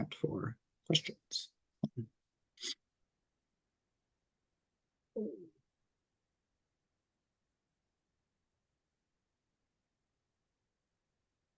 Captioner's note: no sound, waiting for questions in chat